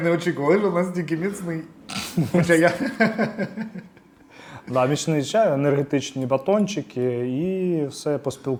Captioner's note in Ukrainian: сміх